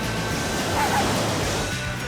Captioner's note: arf arf